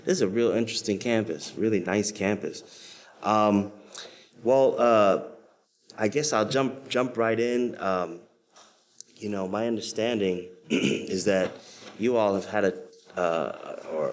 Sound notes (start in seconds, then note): 10.6 clears throat